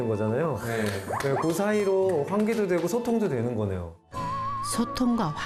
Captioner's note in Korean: 격한 감탄